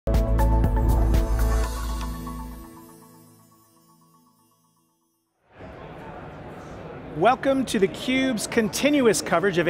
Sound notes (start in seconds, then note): 0.1 gentle music; 5.5 background chattering